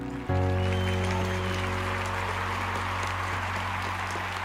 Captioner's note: audience applauds